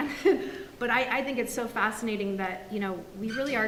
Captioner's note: laughs